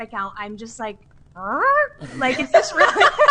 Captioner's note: surprised groan; laughs